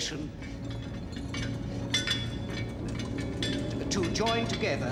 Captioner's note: plumbing noises